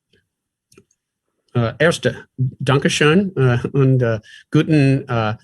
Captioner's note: speaks German